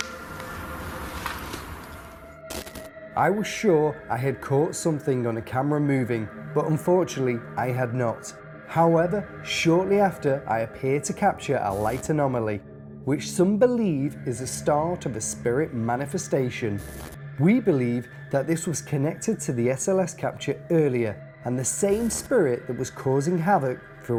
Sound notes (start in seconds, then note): 0.1 eerie music; 16.7 static